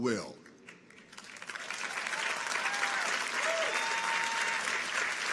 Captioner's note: audience applauds